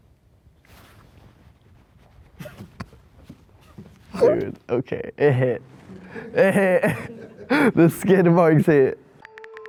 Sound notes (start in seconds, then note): 6.0 interviewer laughing